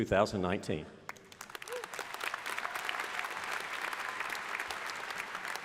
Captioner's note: crowd applauding